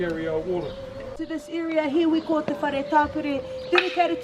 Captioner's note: speaking Maori